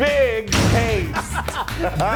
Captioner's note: logo crashes; both laugh